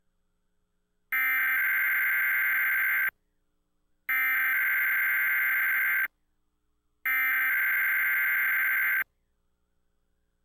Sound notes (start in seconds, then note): 1.0 Standard EAS Tones